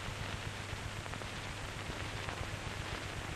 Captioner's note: none